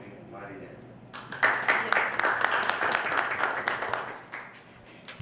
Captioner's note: applauding